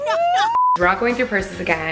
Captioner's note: laughs; high pitched beeping